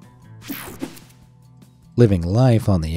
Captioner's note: screen whooshing